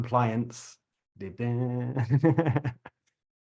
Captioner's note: laughs